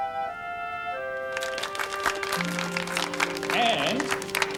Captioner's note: applause